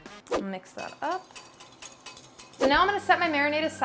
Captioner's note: whisk clinking